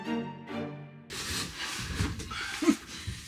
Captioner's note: snow crunching